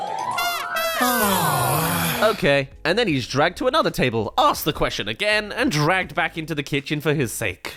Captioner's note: sigh